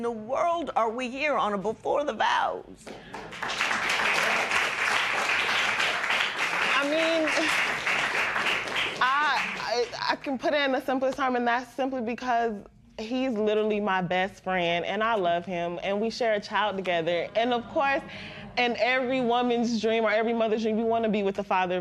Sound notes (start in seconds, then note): 2.8 applause